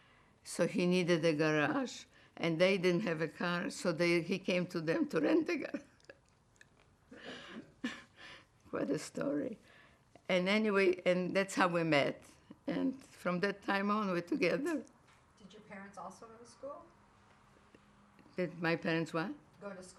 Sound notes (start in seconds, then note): 5.9 laughing